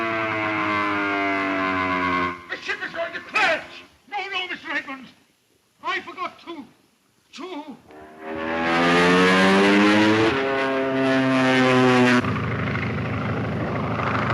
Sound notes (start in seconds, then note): 0.0 engine roaring; 7.9 engines roaring